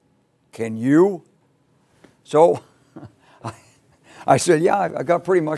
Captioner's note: laugh